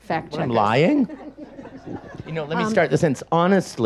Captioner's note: audience laughs